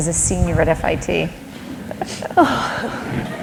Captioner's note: laughter